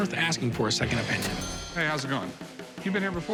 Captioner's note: cash register dings